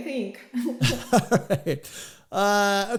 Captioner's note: laughing